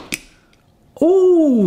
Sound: foil snaps

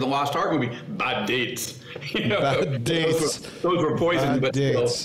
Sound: laughs

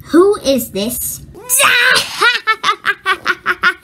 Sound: laughing

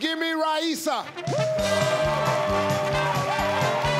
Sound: people cheering; upbeat jazzy instrumental music

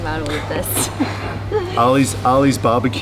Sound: laughing

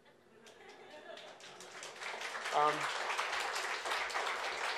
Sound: audience applauds

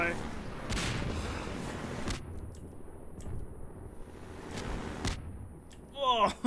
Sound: constant explosions

